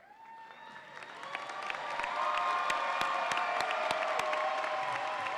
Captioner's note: audience applauds and cheers